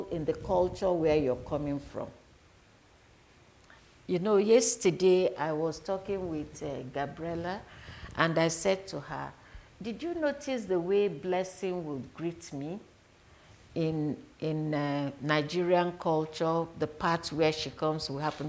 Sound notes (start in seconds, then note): none